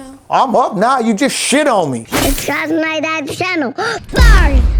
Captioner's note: gasps